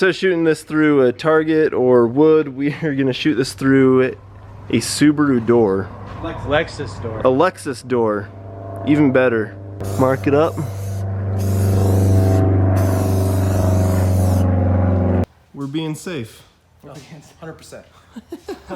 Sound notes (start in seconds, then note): 11.1 airplane engine revving; 17.9 laughing